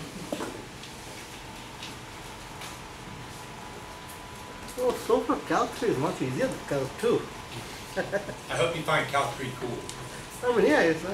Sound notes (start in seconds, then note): 6.3 speaks softly; 7.9 laughs; 10.8 speaks softly